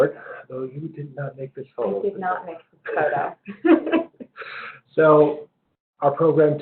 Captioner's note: laugh